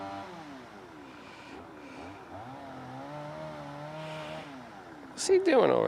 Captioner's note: chainsawing